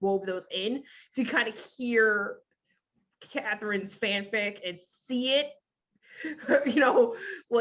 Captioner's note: laughs